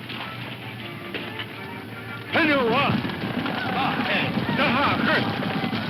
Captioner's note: speaking foreign language; upbeat dramatic music